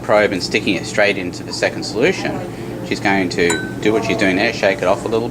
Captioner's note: glass tings